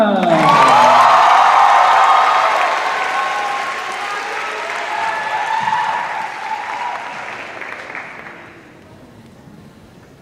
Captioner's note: cheers and applause